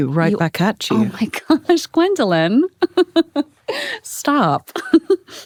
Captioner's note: laughs; laughs